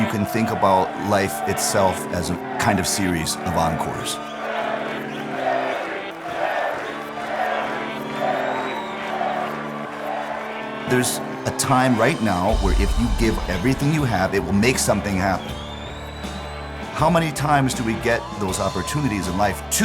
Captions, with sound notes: Maybe if you use a little imagination you can think about life itself as a kind of series of encores. >> [APPLAUSE] >> There's a time right now where if you give everything you have it will make something happen.